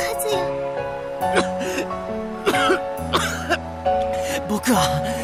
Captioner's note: coughing fit